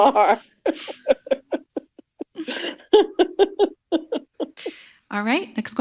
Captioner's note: laughs